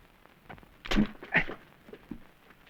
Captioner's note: grunts